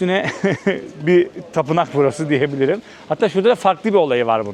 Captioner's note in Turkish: kahkaha